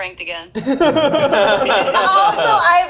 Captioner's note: all laughing